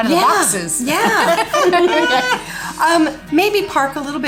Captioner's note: all laugh